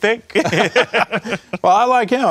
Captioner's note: laughter